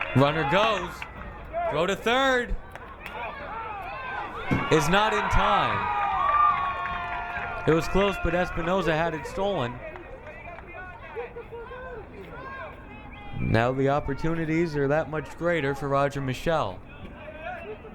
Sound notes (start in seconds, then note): 5.4 crowd cheering